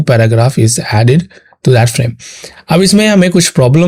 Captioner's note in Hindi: नाक से की जाने वाली आवाज़